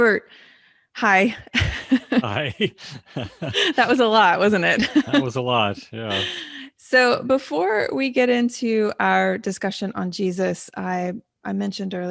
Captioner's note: both laughing